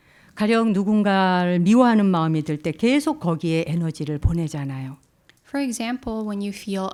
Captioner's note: speaking in Korean